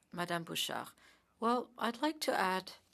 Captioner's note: speaking French